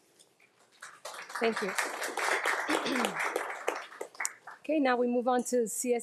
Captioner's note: audience applauding